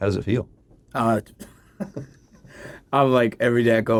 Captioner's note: laughs